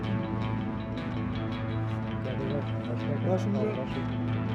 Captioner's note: soldier speaking foreign language